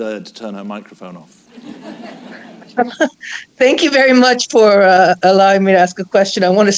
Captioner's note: laughter